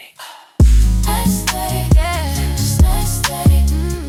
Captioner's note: breath